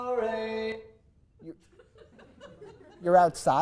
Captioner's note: small audience laughter